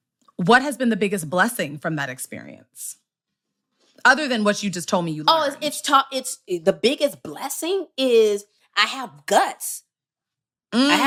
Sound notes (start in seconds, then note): none